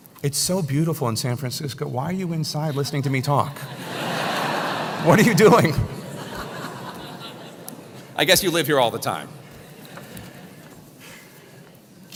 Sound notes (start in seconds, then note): 2.6 laugh